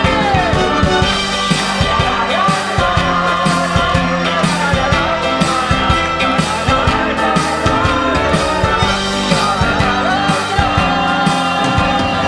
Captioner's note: Continues to hum Hamilton